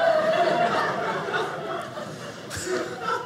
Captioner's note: audience laughing